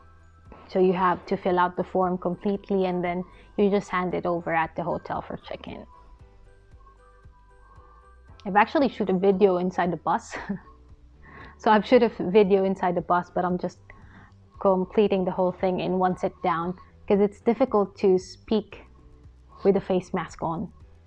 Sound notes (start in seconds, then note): 10.3 chuckles